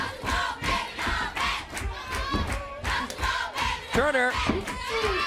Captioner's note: crowd cheering